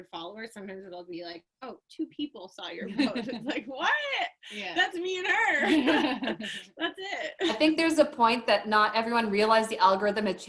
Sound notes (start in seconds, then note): 5.6 both chuckle